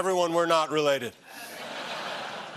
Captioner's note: laughter